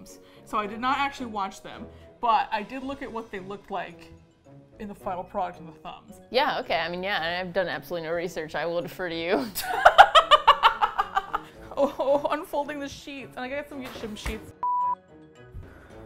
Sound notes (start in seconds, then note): 9.3 laughs